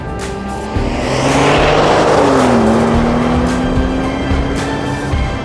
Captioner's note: engine revving; light music fades